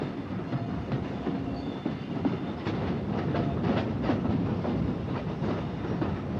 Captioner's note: train passes